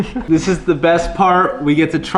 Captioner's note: chuckles